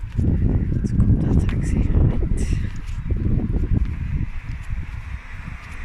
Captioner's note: traffic